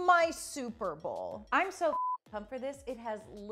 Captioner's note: beep